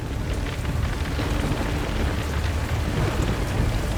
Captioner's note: none